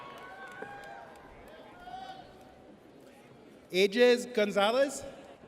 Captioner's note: audience cheers